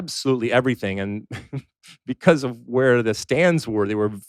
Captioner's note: laughs